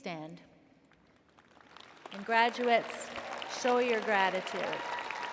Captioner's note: applause